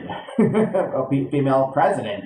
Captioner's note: chuckles